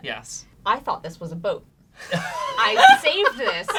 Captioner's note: laughing